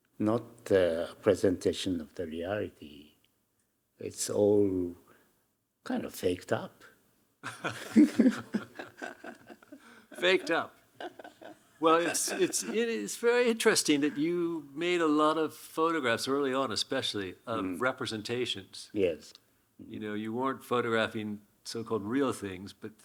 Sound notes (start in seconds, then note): 7.4 laughing; 7.4 Hiroshi laughing